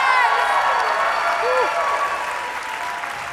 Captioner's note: applause